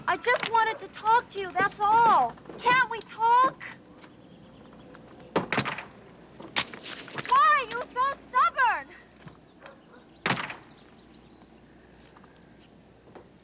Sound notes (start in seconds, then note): 5.4 door slams